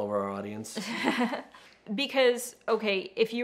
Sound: laughing

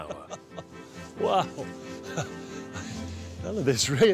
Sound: chuckling

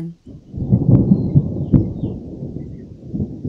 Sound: thunder

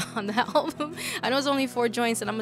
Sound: laughs

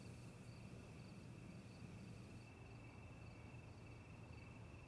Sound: crickets chirping

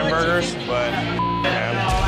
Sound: beep

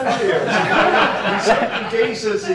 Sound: laughter

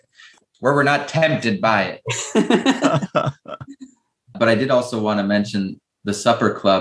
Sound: laughter

